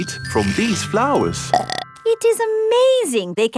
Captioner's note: burps